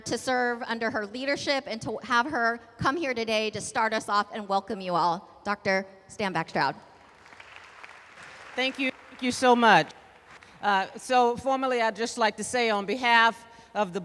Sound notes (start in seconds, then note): 6.8 applause